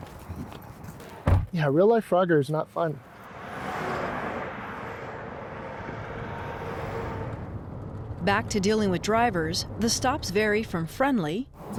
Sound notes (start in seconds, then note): 3.4 traffic roaring